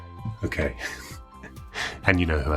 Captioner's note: laughing